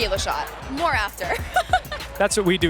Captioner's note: laughs